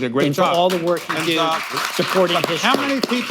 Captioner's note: applause